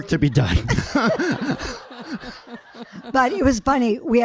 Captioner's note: audience laughing